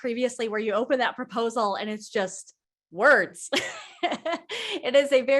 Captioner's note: laughs